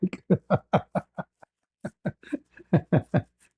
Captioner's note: ketawa